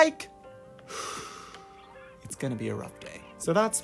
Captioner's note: exhale